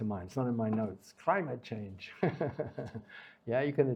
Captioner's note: laughs